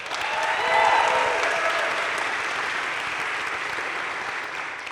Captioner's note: crowd cheering and applauding